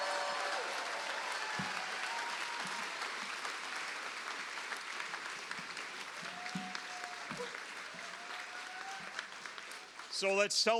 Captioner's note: cheers and applause